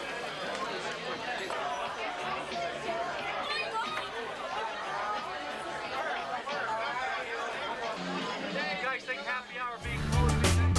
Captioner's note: crowd chatter